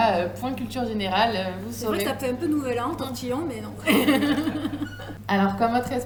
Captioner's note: laughs